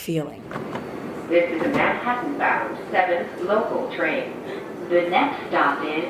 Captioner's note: train announcement